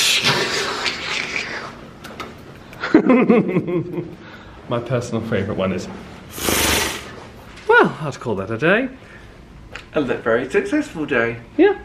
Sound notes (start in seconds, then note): 2.7 laughs; 6.3 hisses